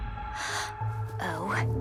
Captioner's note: Elda gasps